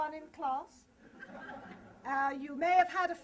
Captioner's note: laughter